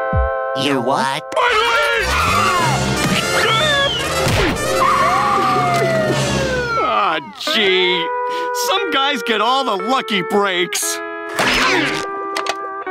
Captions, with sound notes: -Your what? -My leg! [screaming] [siren wailing] Ah gee, some guys get all the lucky breaks.